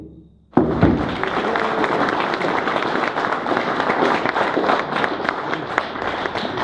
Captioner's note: audience applause